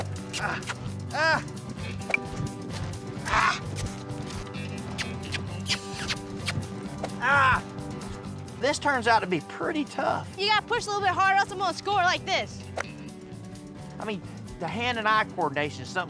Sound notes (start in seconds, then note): 0.2 kissing sound to horse; 2.0 hitting ball; 4.6 kissing sound to horse; 13.7 hitting ball